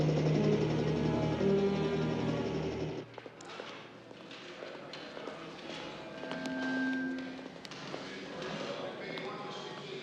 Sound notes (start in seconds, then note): 2.9 stage crew chattering; 6.3 speaker feedback